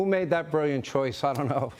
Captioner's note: laughter